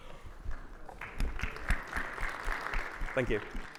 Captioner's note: audience clapping